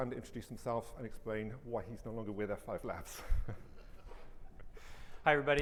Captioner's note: chuckles